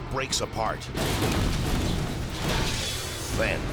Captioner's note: airplane clashes